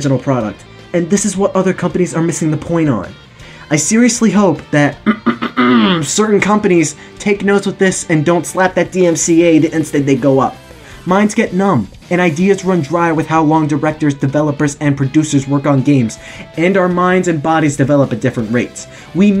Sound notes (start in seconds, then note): 5.0 clears throat